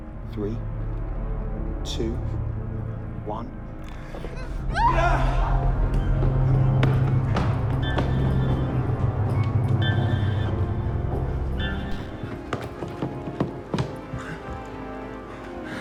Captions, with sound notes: Three, two, one. (Mia screaming) (dramatic music)